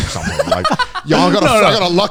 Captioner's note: laughing